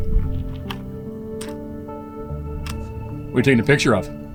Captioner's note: camera clicking